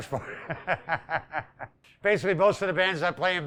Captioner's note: laughing